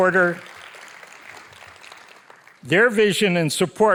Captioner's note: audience applauding